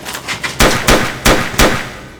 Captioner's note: gunshots